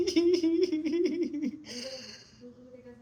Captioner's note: laughing